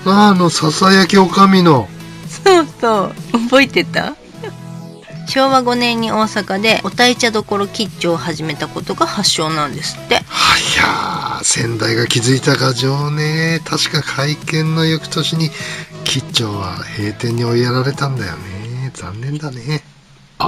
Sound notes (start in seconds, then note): 4.3 laughs